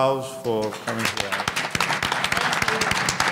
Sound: audience applauding

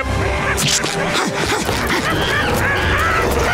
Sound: panting

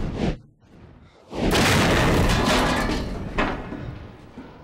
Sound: debris crashing

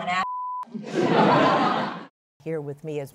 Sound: laughter

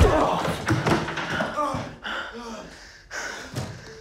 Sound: moaning; heavy breathing

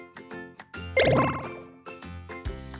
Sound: upbeat background music; pinball bouncing sound

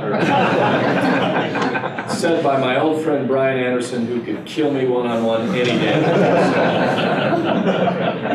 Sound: laughter

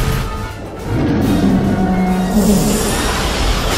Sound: growling

